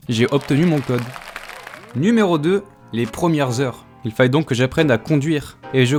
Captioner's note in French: Applaudissements